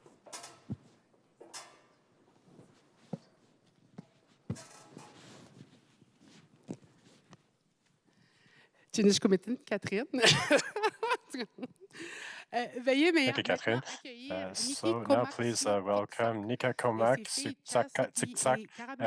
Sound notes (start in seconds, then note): 8.5 speaking French